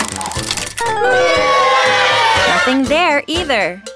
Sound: audience booing

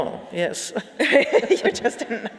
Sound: laughing

